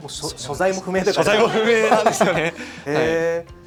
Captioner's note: laughs